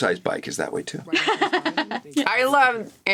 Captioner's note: laughs